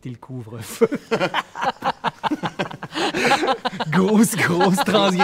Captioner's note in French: rires